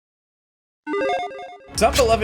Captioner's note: electronic chiming